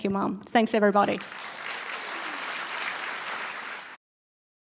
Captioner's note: applause